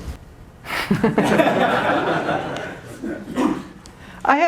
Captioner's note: laughter